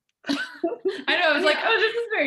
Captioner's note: laughing